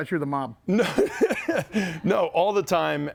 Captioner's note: laughs